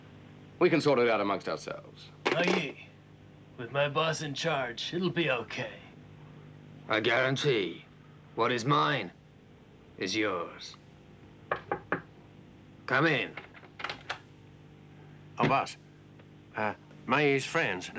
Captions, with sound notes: We can sort it out amongst ourselves. - Mayi, with my boss in charge, it'll be okay. - I guarantee, what is mine is yours. (knocking) Come in. (door rattles) - Oh boss, eh Mayi's friends,